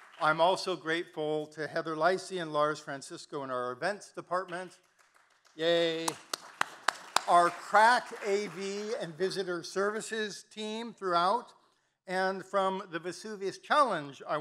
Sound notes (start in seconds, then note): 4.5 claps; 6.5 audience applauding